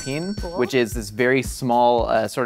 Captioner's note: cash register dings